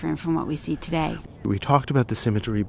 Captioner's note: voiceover